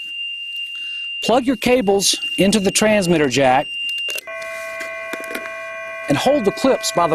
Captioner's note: transmitter tone goes low